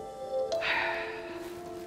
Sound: exhale

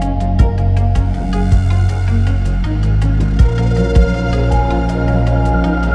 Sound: wind blows

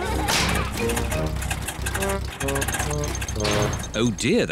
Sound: all laugh; engine sputters

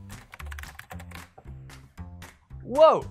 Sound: typing

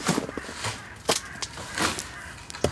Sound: calls of crows

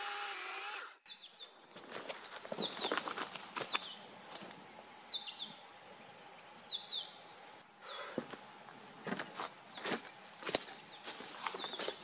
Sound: pine grosbeak, leaves and branches rustling, footsteps

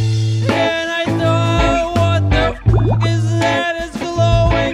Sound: bloop

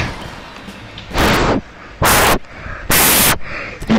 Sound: breaths through mic

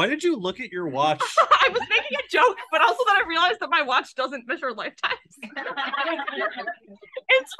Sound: laughs

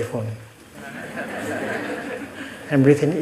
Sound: audience laughter

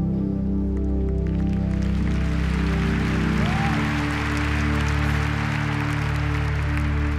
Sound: audience applause

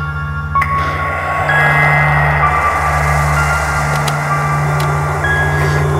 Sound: ghostly voice

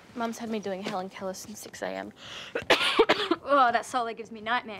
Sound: coughs

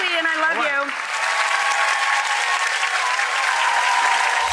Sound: applause

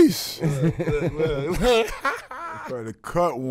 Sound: laughing

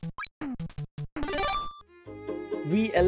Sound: chime

